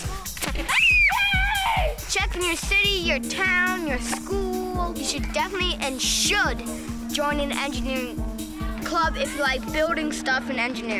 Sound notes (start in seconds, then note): 0.3 loud popping noise; 0.6 girl screams